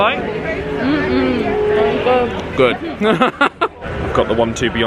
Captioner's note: laughs